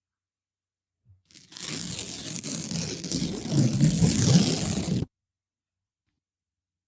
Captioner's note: ripping